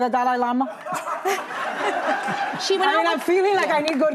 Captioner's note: audience laughs